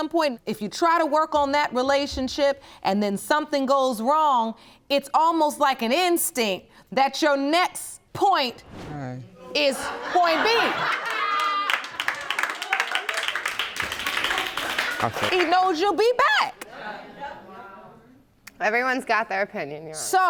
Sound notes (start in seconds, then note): 9.6 audience laughing; 10.8 audience applauding